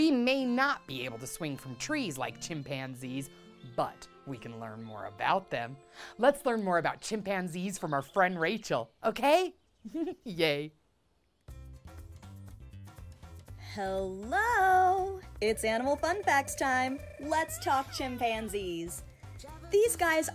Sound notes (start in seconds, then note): 9.9 laughs; 10.3 upbeat music